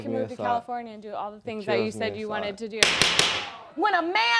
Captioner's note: gavel banging